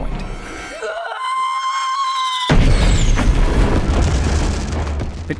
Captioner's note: screaming / explosions